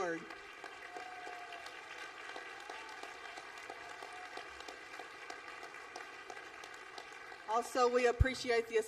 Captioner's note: applause